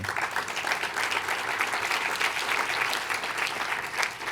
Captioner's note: audience applauds